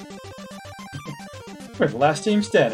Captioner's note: chuckles